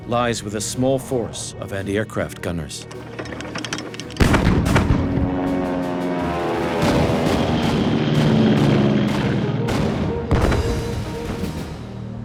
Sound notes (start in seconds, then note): 4.2 bomb explodes; 5.9 aircraft engine roars; 6.7 gunshot fire